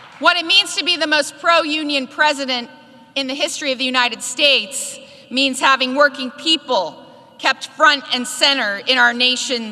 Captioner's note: applause